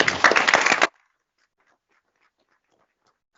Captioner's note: applause